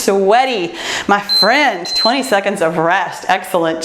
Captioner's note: timer beeps